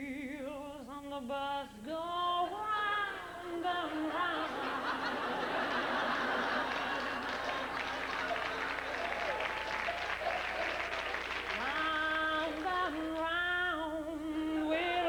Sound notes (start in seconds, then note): 5.0 laughter; 6.2 applause